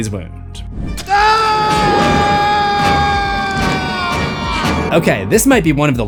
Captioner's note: screams